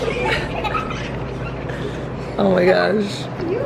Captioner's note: children laughing